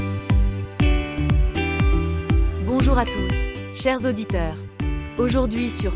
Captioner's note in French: Voix de femme